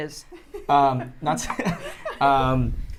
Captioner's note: laughter